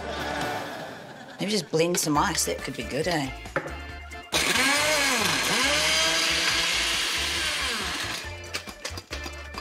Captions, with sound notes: (LAUGHTER) - Maybe just blend some ice. That could be good, eh? (BLENDER WHIRRS)